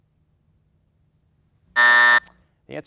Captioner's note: buzzer buzzing